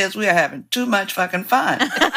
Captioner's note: laughter